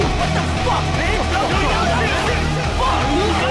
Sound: all yelling

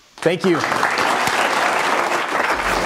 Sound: applause

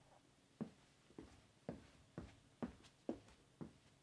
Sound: boots thudding

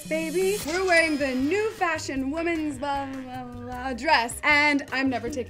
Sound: mutters

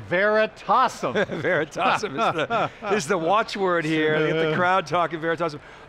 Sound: laughs

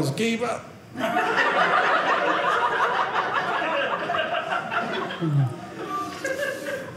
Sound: audience laughing

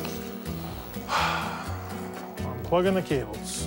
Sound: sighs

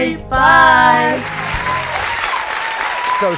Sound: audience applauding

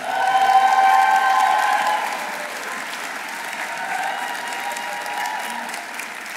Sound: audience cheering; audience applauding

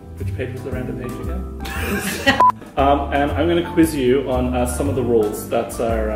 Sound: laughter

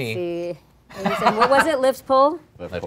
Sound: laughing

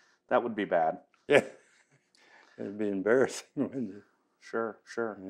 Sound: laughs

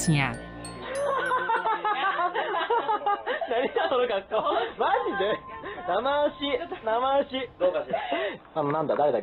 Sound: laugh

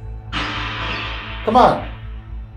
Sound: radio noise reverberating

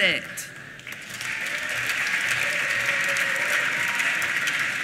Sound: applause

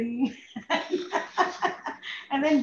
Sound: laughs

